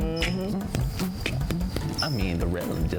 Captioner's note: beatboxing